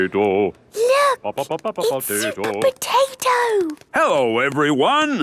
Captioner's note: hushed